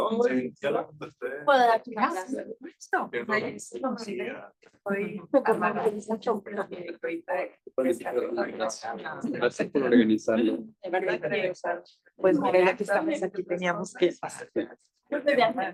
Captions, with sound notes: - I think we're gonna be (faintly speaking) (attendees chattering)